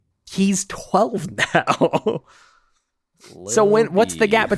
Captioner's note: laughs